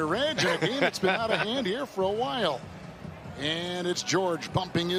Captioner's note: laughter